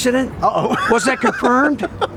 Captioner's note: laughs